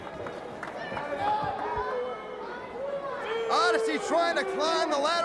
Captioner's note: crowd chatter